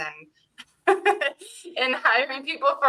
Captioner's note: laughing